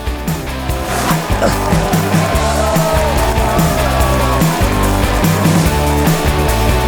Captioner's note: bright upbeat music; audience cheering; audience applauding